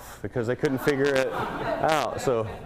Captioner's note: laughter